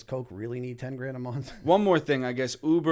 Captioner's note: chuckle